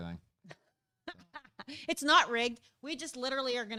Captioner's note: laughs